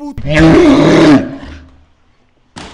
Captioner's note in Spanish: Grito salvaje